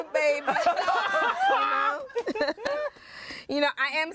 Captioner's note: everyone laughs